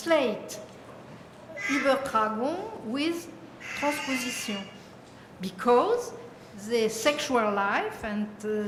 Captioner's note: french